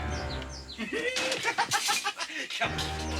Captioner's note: laughing manically